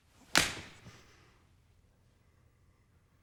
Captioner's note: smack